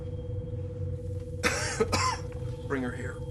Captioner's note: mccoy coughs